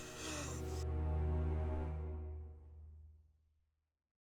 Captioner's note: rapid breathing